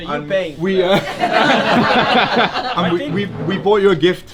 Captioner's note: all laugh